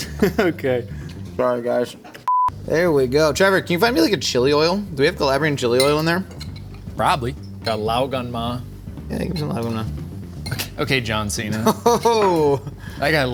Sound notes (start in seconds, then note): 0.0 laughing; 2.3 tone beeps